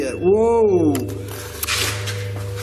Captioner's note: machine beeps